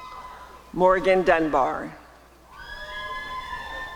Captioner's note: applause and cheering